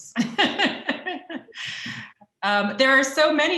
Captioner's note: chuckles